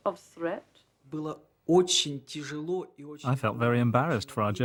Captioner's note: speaking Russian